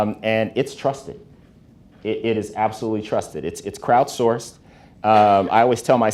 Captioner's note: none